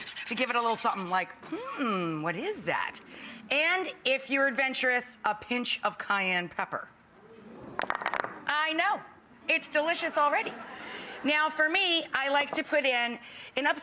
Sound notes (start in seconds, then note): 7.7 bottles knocking; 10.3 audience laughing